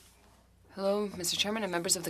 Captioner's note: speaking French